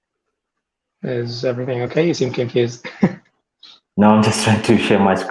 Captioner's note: chuckles